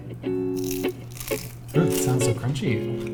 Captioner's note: crunching